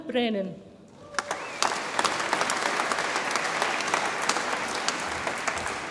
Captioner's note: audience applauds and cheers